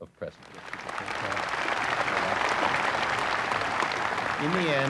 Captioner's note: applause